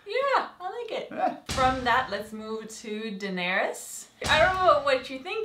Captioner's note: laugh